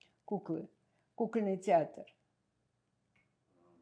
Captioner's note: russian